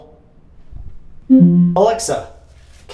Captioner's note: decline sound